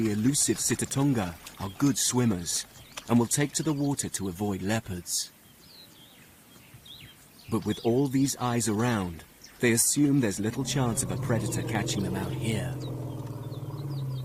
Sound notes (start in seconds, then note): none